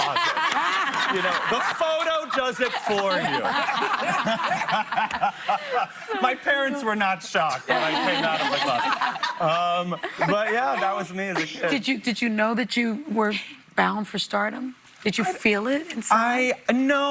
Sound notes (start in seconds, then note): 4.9 laughter